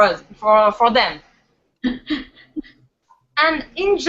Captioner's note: laughs